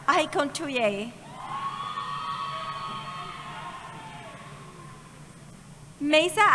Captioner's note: cheering